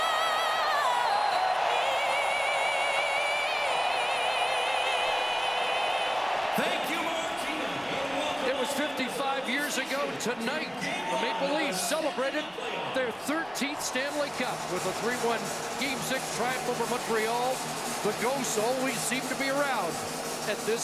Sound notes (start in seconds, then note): 1.1 cheering and Applause